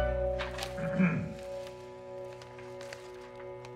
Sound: clears throat

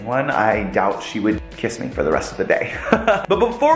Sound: laughs

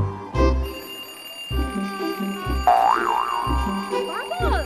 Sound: school bell rings

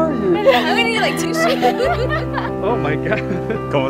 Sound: laughter

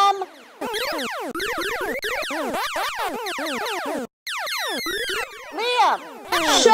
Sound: video Game Noises

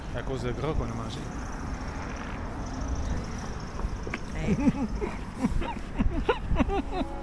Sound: laughs

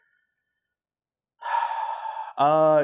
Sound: sighs, still thinking

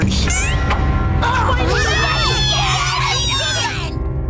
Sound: cheering

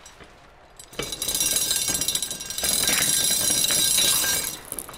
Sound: chain clinking

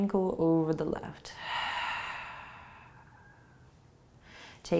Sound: exhaling

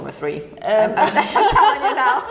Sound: group laughs

